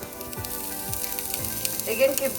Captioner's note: oil sizzling